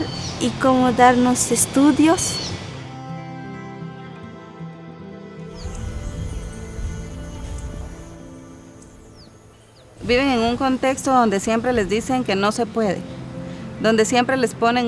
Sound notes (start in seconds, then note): 5.4 crickets buzzing; 5.4 birds chirping; 9.9 speaking in foreign language